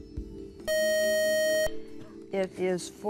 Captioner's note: beep